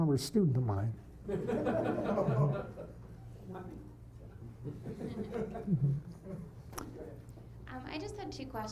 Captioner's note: laughter